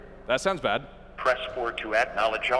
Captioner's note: on phone